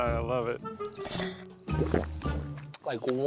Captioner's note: bright pensive music; slurping